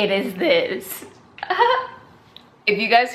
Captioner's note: giggles